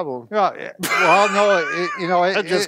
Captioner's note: laughs